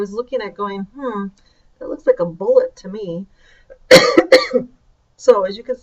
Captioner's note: coughs